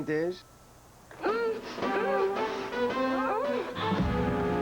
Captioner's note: moaning